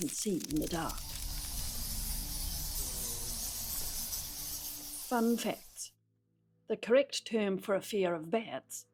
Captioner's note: insect scuttling noises